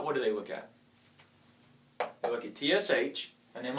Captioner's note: tapping